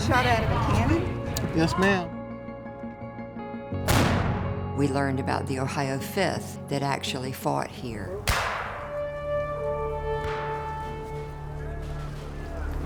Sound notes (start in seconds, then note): 3.8 cannon bangs; 8.2 gun fires; 10.1 soft music